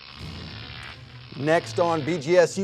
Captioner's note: electrical wires crackling